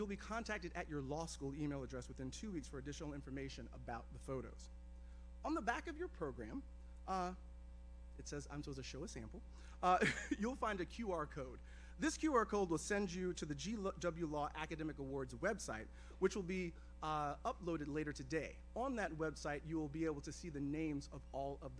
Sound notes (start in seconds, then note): 9.9 giggles